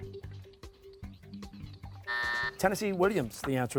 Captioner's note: buzzer